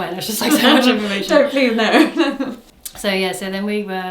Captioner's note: laughs